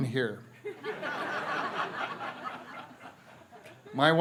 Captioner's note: laughter